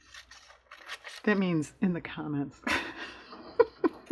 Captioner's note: laughs